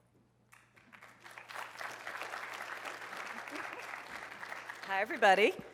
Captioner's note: applause